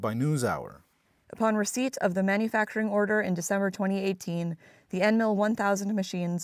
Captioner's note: through translator